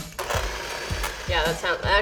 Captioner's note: laughs; mixer whirring